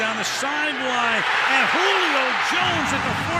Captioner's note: cheering